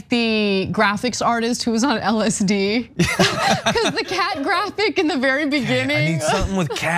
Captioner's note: laugh